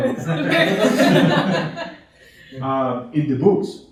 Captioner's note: laughing